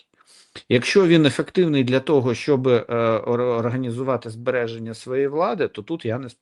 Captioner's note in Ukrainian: сопіння